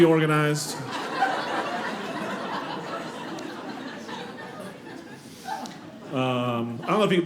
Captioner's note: audience laughing